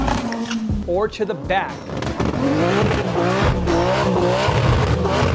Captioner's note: engine revving